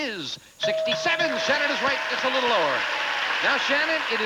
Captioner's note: audience applauding